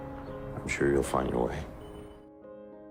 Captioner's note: voiceover